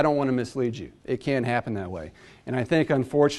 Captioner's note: none